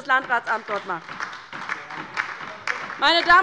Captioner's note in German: Beifall bei der LINKEN